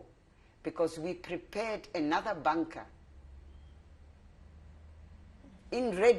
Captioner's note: pauses for 3 seconds